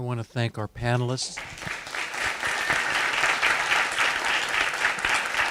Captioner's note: audience applauding